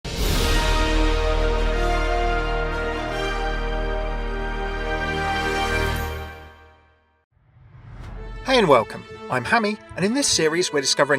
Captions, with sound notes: (impactful music) - [Voiceover] Hey, and welcome. I'm Hammeh, and in this series, we're discovering